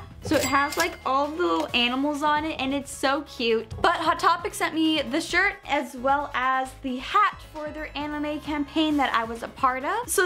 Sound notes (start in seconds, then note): none